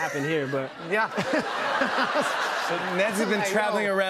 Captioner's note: laughter